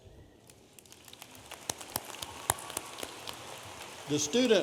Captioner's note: audience applauding